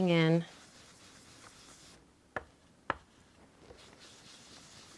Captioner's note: brush scrubbing